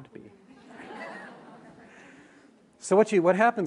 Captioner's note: laughter